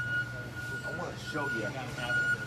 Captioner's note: murmurs; beeping sound